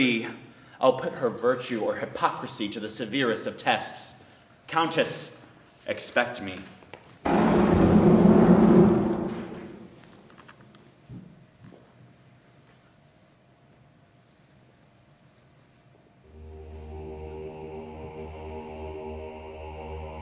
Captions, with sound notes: I'll put her virtue or hypocrisy to the severest tests. Countess, expect me! (thunder roaring) (mournful music)